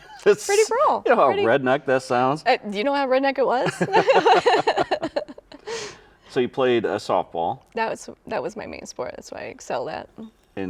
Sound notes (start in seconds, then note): 0.0 laughs; 3.7 laugh